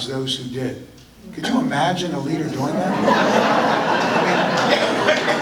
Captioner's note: audience laughter